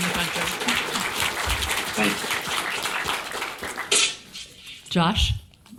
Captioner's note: audience applauding